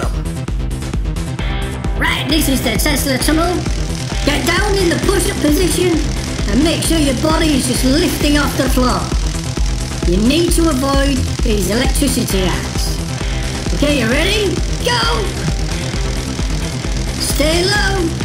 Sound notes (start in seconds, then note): 8.2 crackling electricity noise; 15.7 crackling electricity noise